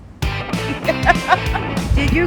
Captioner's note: laughing